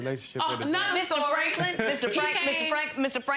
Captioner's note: laughs